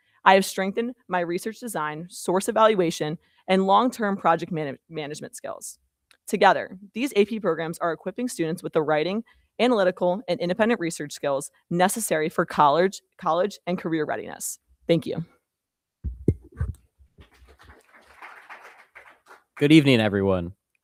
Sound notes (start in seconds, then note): 17.2 crowd applauding